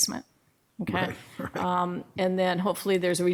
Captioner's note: laughing